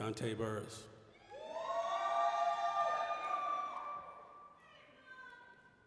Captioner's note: applause, cheering